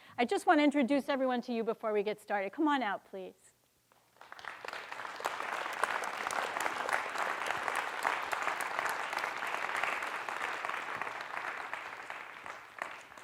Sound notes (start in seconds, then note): 4.4 audience clapping